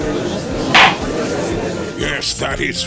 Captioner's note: gallery chattering; gavel slams!